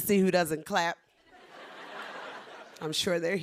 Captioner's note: laughter